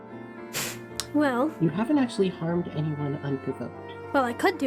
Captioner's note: huffs